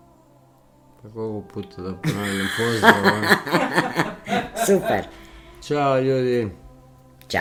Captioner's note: laughter